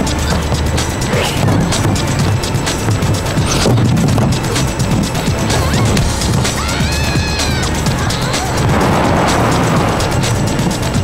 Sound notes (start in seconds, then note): 0.9 grunting; 8.1 screaming